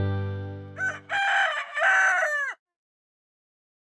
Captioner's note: rooster crows